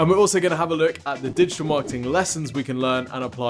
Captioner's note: whooshing